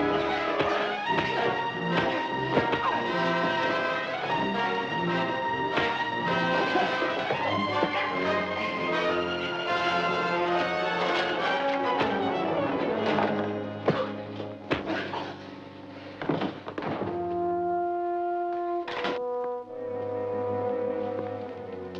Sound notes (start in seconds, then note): 16.2 scientist thuds; 17.8 suspenseful orchestral music